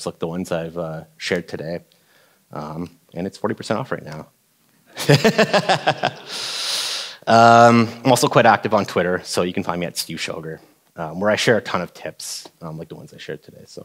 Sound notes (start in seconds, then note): 5.0 laughing